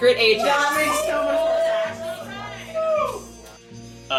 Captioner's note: sounds of shock and excitement